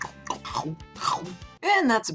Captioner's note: chomping on innocent burgers; chomping on non-characters